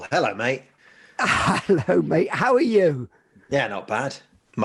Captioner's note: chuckling